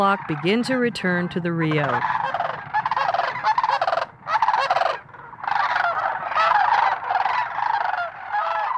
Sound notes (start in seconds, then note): 2.4 birds squawking